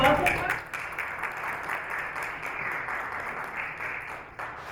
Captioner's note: applauding